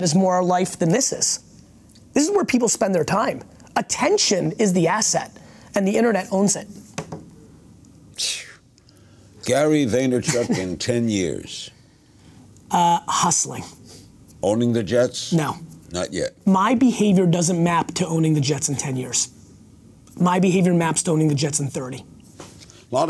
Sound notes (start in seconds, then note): 8.6 sighs